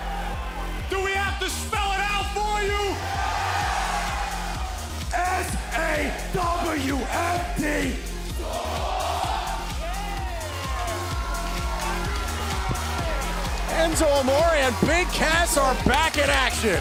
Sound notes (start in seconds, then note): 4.1 cheers & applause